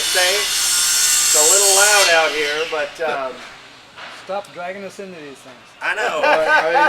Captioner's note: laughing